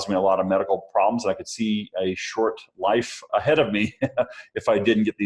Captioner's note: laughs